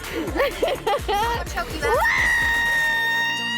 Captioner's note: Leah laughing